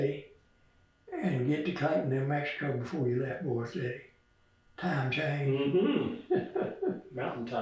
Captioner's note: laughs